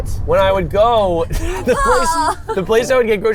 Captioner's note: groaning